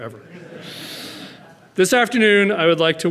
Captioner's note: audience laughing